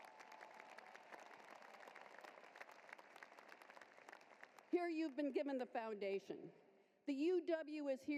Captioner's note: applause